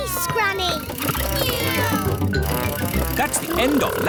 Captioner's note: kids imitating vehicle sounds